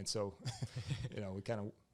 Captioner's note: both laugh